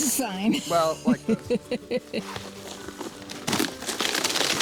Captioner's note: woman laughing; creaking